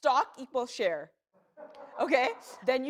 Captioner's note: laughter